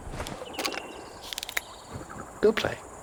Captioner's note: net rattling